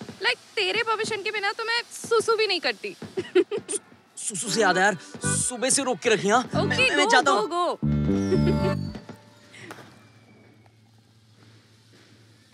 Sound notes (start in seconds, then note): 8.1 Laughs